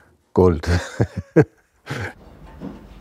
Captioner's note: laughter